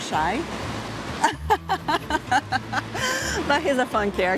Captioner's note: laughs